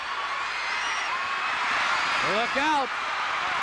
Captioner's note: audience cheering